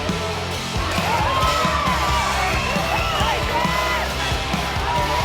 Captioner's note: audience cheering